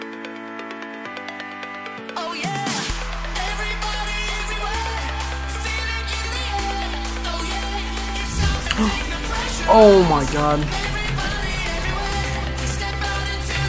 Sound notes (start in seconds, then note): 8.4 gasp